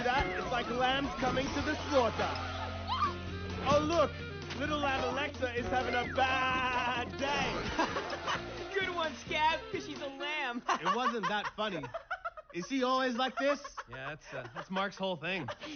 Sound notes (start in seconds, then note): 7.9 laughs; 10.4 laughs